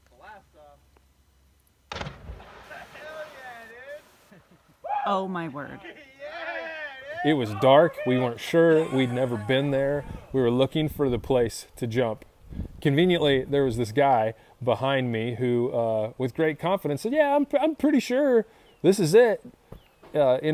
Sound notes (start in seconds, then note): 2.0 splashing water; 6.0 cheering